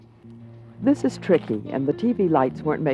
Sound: voiceover

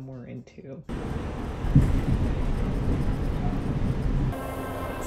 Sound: train car rattling

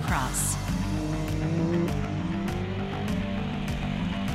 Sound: loud motor sounds

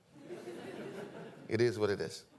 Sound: audience laughing

